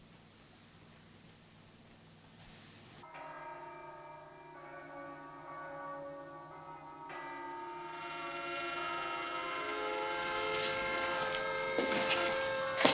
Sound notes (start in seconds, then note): 3.0 church bells ringing; 7.7 horns honking